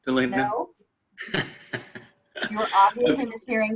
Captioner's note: laughing